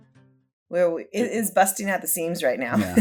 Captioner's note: laughs